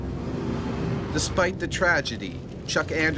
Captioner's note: voiceover